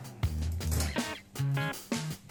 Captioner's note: door opens